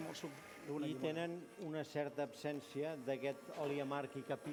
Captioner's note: non-english speech